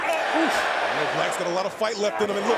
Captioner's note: crowd cheering